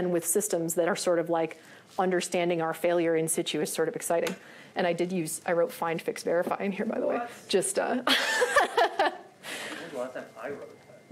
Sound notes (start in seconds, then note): 8.1 laughs